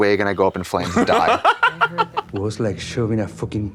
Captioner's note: Kim chuckles